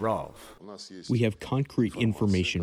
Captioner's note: through translator